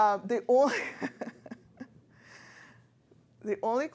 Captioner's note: laughs